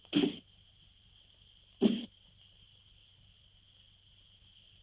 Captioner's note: dart thuds